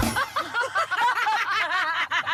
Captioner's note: alarm sounds, bells ring